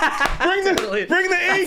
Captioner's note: laughing